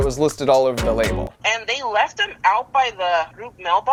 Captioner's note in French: Voix au téléphone